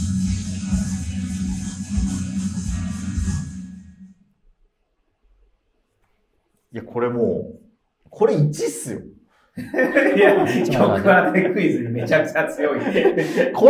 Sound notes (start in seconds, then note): 9.6 laughing